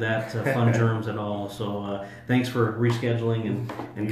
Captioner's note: laughs